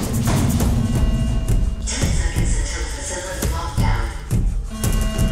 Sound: over intercom

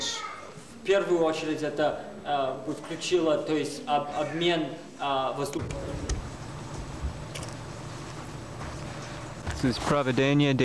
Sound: non-english speech

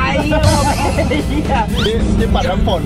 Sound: laughs

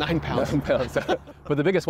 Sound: laughter

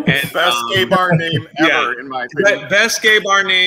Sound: murmurs

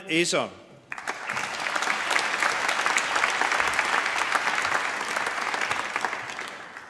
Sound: applause

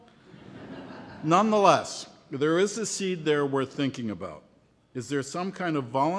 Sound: laughter

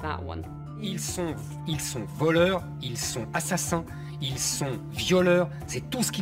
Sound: speaking in French

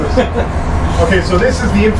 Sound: laughs

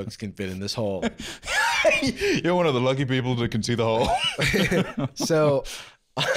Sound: laughs; laughing

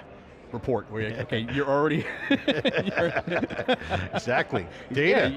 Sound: laughing

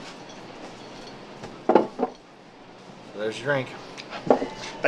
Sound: none

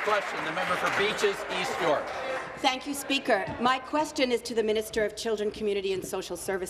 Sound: applause

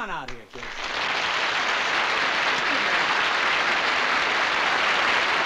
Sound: applause

